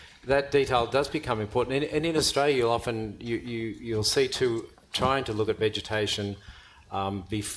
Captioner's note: none